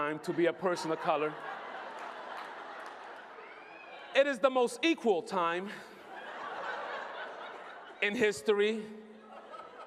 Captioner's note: laughter; laughter